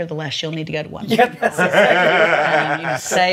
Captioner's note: laughs